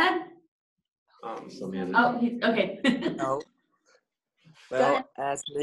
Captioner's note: group chattering